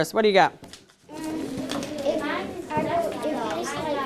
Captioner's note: learners conversing